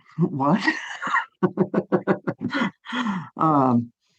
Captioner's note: laughing